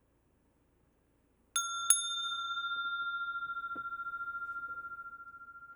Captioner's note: rings the bell